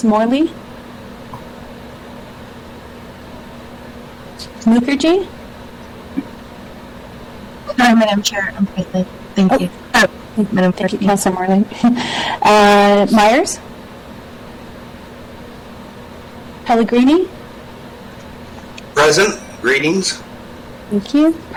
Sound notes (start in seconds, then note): 12.3 chuckles